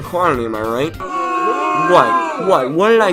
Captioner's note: booing